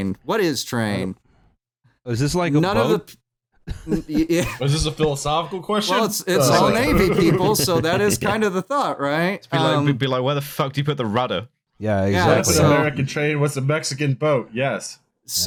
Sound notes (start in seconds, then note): 5.8 laughs; 9.2 chuckles